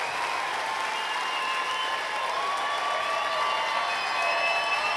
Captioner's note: cheering, applause